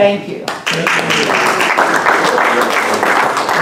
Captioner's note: applause